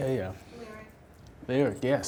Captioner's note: voiceover